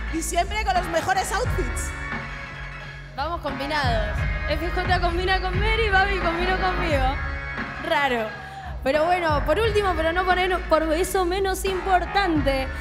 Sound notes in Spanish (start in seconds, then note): none